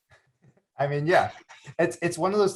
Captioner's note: chuckles